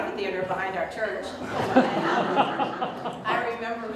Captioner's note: audience Laughter